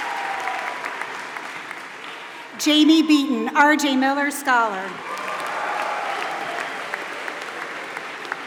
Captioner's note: applause